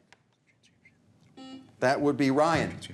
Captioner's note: buzzer buzzes